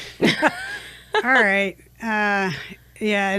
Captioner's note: laughs